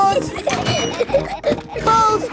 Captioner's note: giggling